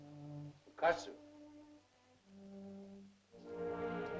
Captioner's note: Tumak speaks in caveman language; sentimental music